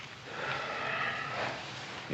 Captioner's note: Adam sighing